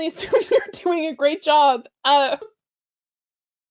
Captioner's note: laughter